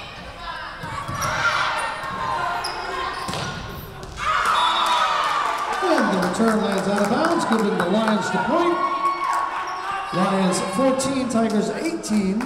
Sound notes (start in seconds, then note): 4.5 whistle blowing